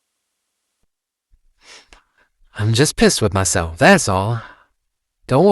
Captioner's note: sniffling slightly